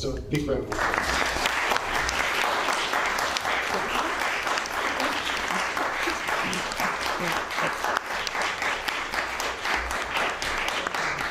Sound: applause

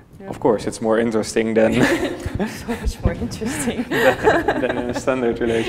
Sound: laughs and murmurs

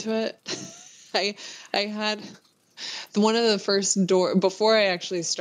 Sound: laughs

